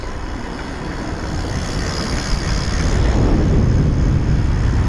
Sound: bicycle pedaling

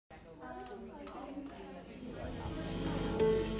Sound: chatter

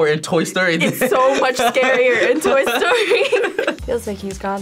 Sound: laughs

